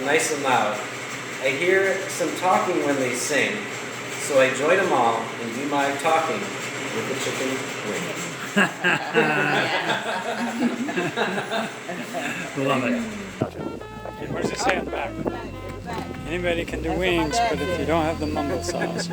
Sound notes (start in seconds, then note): 8.1 laughing